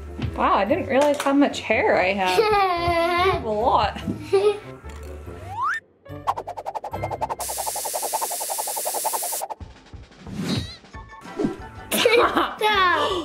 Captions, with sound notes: Wow, I didn't realize how much hair I have. (laughing) Have a lot. (spraying hair spray) (playful music)